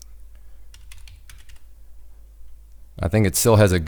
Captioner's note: typing on keyboard